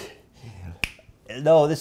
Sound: snap!

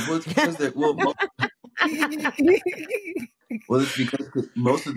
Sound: laughter

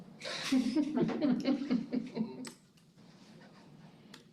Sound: chuckling

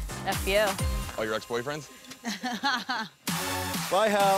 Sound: laughing

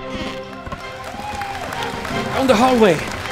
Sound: applause

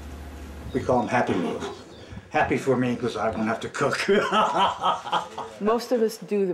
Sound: laughs

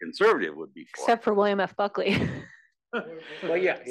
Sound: laugh

